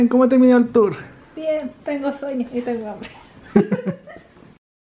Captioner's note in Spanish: risas